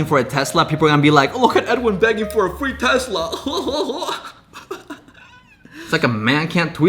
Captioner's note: laughs